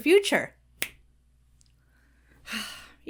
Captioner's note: Bill snaps fingers; Bill sighs